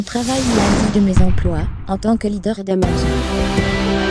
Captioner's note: whoosh; inspirational music